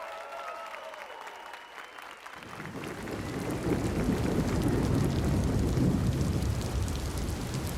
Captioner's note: applause and cheers